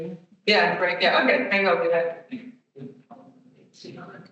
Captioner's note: attendee speaking softly; attendees chattering